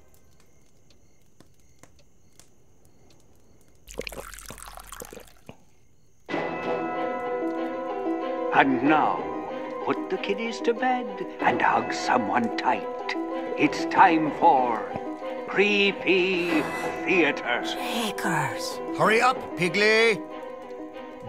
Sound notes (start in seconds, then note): 3.8 liquid pours; 7.8 radio Announcer